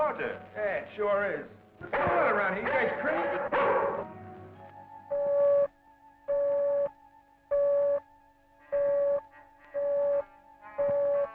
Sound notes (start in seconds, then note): 5.4 lights beeping